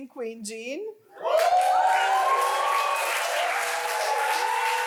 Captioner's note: audience applauds